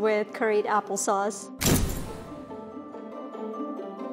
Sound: dramatic thump

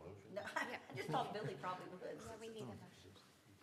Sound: laughter

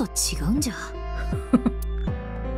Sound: chuckles

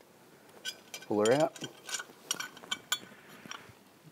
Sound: metallic clattering

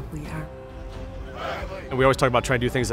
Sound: football players chanting

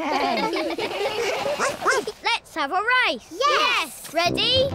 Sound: all laugh; barks

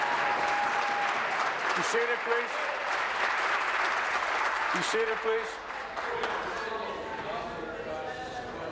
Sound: applause

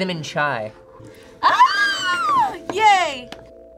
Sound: screams

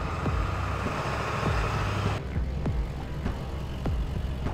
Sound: truck engine roars

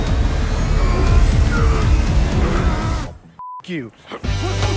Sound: man grunts; both men groan; beep

